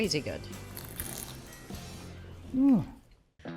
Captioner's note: bread crunching